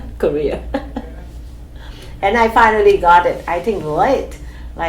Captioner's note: laughs